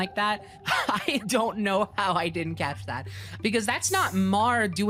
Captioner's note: laughing